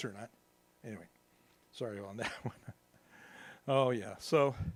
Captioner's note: laughs